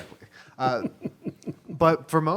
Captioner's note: laughing